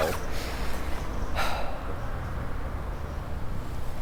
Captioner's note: sigh